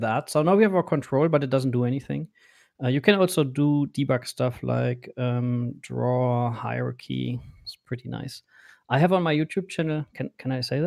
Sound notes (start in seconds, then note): none